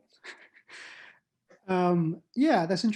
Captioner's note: laughs